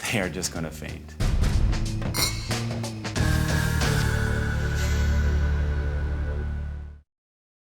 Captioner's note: dramatic music; glasses clinking